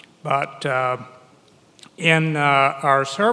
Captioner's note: none